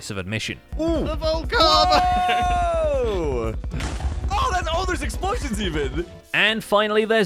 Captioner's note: explosion